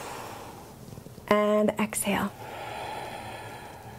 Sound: deep breath

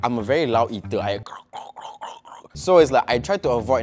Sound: munching sounds

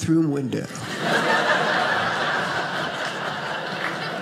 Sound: audience laughing

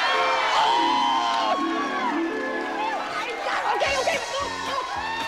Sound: audience applauding

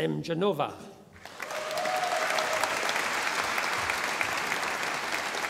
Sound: audience applauding

